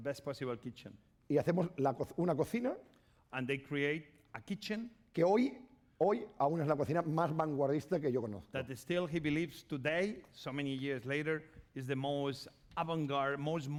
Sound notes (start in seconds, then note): 2.1 speaking spanish; 6.2 speaking spanish